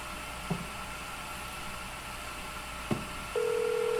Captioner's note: vacuum cleaner motor